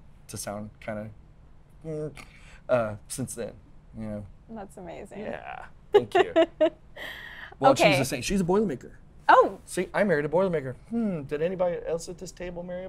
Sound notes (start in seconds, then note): 6.0 laughs